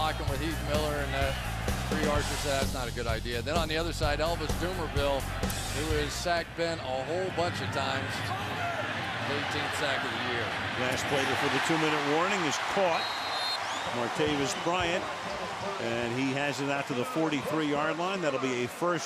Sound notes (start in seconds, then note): 12.9 whistle